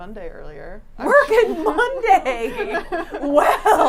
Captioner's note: laughs